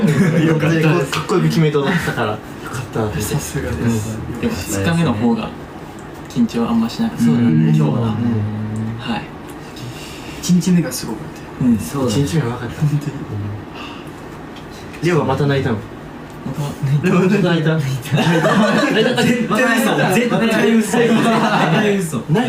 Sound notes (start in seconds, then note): 7.2 members agreeing; 11.8 members agreeing; 18.1 laughing